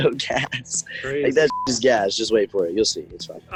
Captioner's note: beep